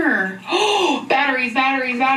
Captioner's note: gasping